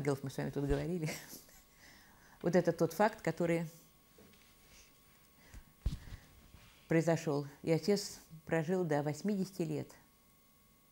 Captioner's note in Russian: хихикает